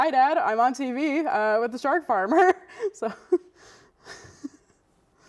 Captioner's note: laughs